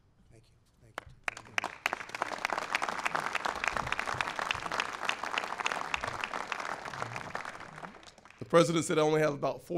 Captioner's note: applause